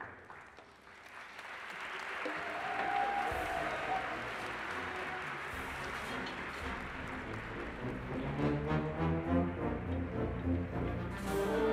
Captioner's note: applause